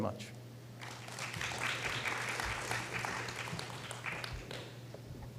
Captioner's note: applause